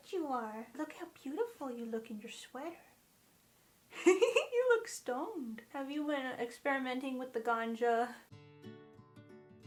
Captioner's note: laughs